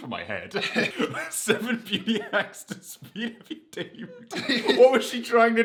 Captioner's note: laughing